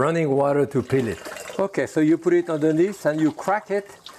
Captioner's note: water trickling